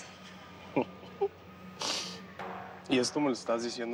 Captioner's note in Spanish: Risas